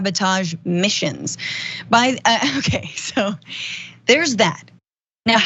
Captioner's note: laugh